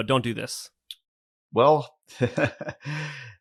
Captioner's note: laughs